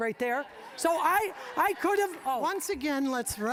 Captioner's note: audience laughing